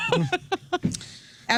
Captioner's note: laughing